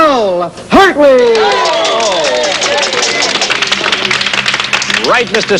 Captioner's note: clapping